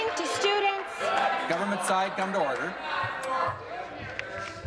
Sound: applause

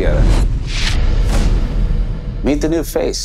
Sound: dramatic reverb

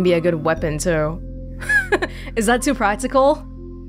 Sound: chuckles

